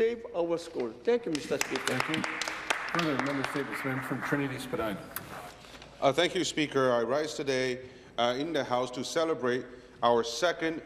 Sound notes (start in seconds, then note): 5.7 applause